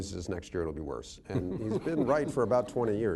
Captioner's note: laughter